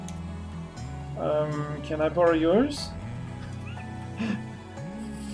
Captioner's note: humming along; humming along; laughs; humming along